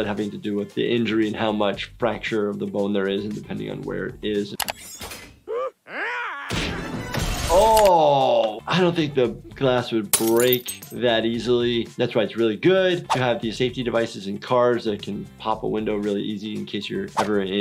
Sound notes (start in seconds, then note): 5.4 Homer gasps; 5.5 growls; 7.2 glass shatters